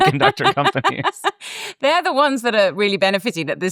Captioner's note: laughs